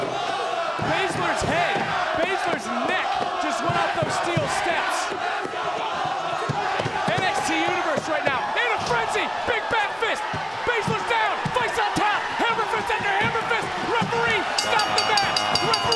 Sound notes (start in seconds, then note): 5.4 audience chanting; 14.5 bell dings